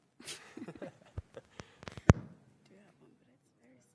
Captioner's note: laughs